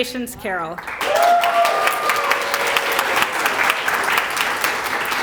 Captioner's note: applause